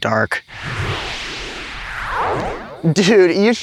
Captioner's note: transporter Buzzing